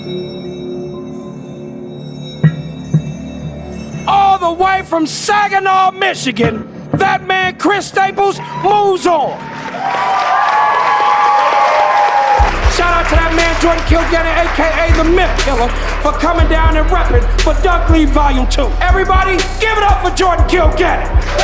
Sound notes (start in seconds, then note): 0.0 tense music; 9.6 crowd Cheering